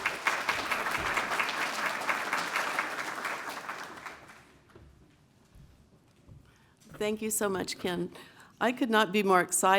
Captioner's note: applause